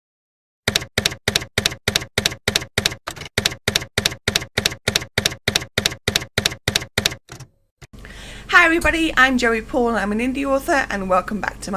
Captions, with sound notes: [TYPEWRITER KEYS CLACKING] Hi everybody! I'm Joey Paul, and I'm an indie author, and welcome back to